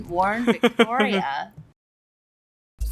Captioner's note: laughs